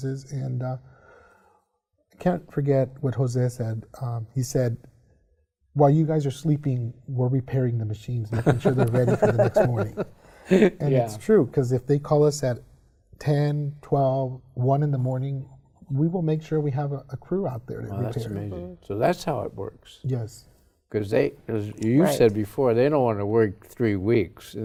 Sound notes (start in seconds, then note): 10.0 laughs